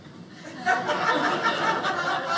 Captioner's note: audience laughing